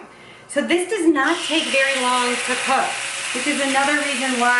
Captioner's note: sizzling